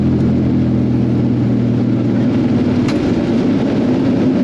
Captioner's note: propellers whirring